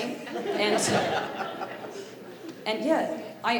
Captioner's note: audience laughing